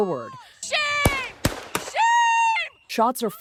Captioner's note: gunshots